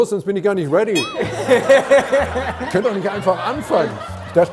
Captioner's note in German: Lachen